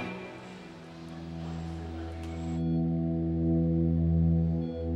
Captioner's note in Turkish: Yaşam destek cihazı çalışıyor